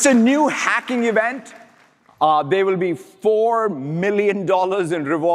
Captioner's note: applause